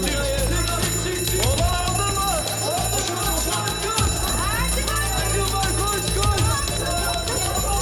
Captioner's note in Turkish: Yangın alarmı çalıyor; Üst üste bağrışmalar